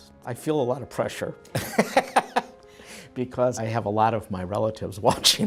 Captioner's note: laughs